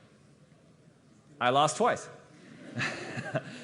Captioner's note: laughter